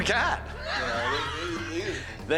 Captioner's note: laughter